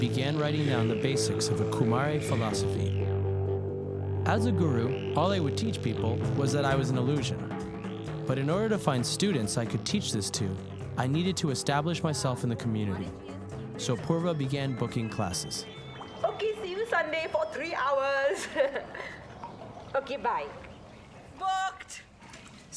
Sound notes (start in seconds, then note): 16.2 浓浓的印度口音; 18.0 Thick Indian Accent; 18.1 chuckles; 18.2 笑声; 20.5 普通语音